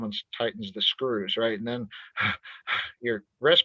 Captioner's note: heavily breathes